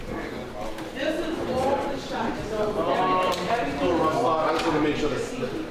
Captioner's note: people chattering